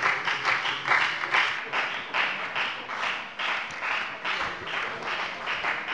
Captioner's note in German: Anhaltender Beifall bei der FDP - Beifall bei Abgeordneten der SPD